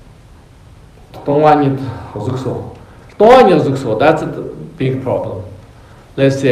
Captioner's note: tibetan